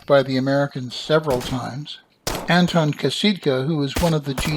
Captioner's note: musket fire